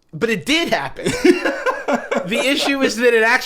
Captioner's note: laughing